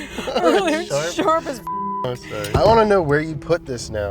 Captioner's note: beep